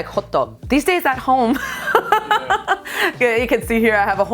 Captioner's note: laughs